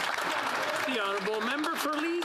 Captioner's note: speaking French